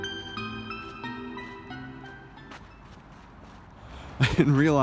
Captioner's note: footsteps through the frozen grass; soft chuckle